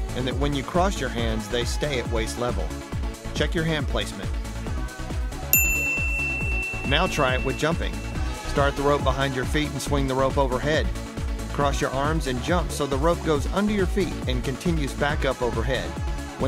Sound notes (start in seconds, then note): 5.5 bell dings